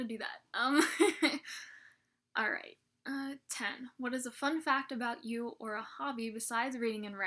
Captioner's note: laughs